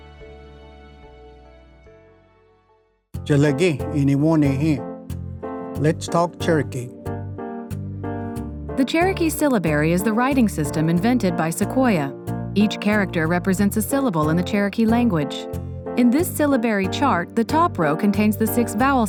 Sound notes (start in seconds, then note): 3.5 language segment music begins; 6.2 speaks in Cherokee